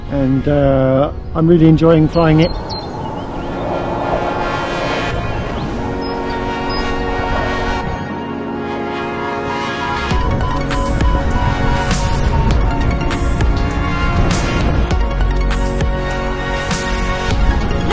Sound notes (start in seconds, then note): 2.9 gentle music; 2.9 wind blowing